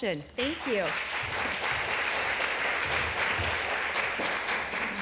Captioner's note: applause